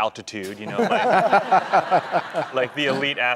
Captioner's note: laughing